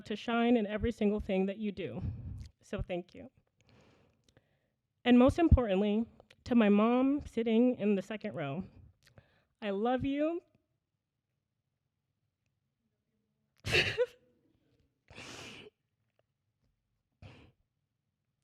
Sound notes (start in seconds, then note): 13.6 laughter